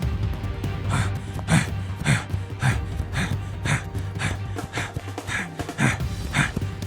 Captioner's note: heavy breathing